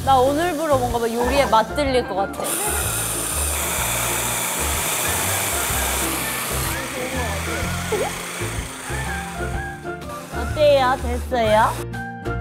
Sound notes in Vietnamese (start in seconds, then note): 3.4 Tiếng ồn do máy xay